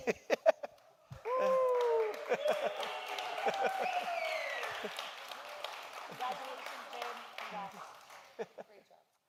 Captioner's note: clapping and cheering